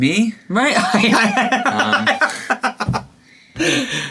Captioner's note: laughing